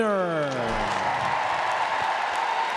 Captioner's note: crowd cheers